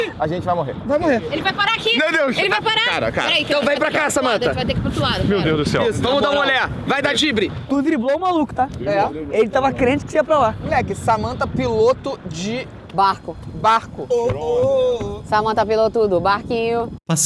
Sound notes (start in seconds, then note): 14.2 they start chanting; 15.3 singing